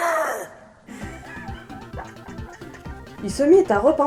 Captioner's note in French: Rires !